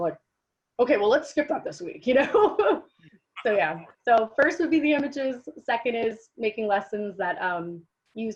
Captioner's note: giggles